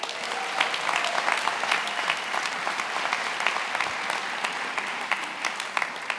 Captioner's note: attendees applauding and cheering